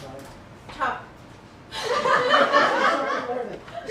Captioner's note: laughter